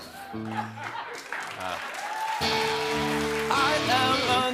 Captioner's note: laughter; cheers and applause